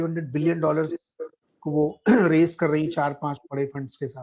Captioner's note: sound of clearing throat